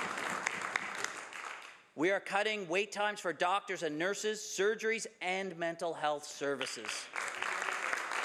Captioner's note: some Applause